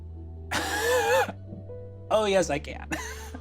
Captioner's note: wheezes